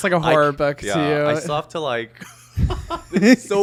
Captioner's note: chuckling